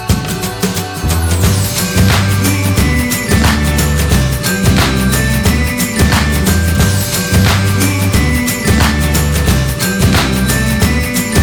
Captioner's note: applause